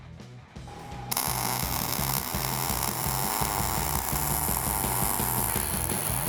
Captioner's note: upbeat rock music; torch sizzling